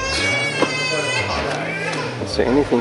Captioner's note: baby screaming in the background